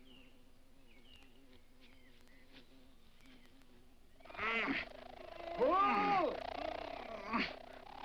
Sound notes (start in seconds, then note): 4.2 bee grunts